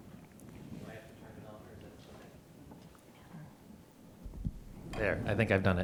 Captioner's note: faintly speaking; faintly speaking